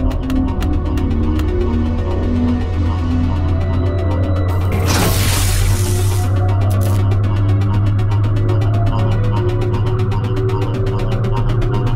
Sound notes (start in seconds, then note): 4.5 ominous dramatic music; 4.6 hissing